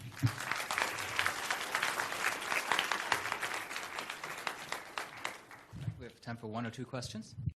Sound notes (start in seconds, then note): 0.0 audience applause; 6.2 voiceover